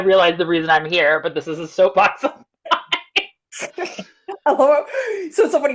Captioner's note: laughs